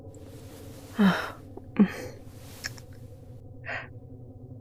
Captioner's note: kiss